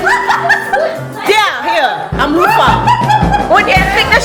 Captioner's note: laugh; laugh